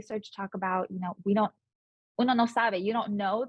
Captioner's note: speaking Spanish